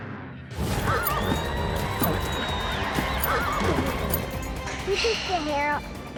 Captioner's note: bucking, neighing